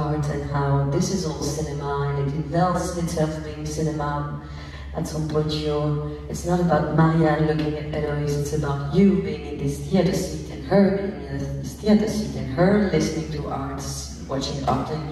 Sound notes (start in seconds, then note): none